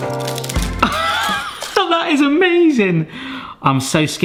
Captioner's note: laughs